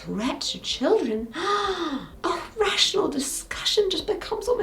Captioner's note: gasps